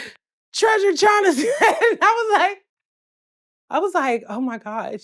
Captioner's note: laughs